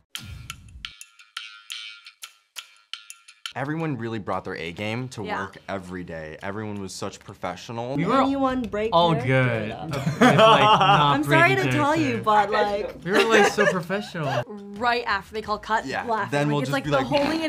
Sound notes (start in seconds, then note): 0.1 upbeat music; 9.9 Sang Heon laughs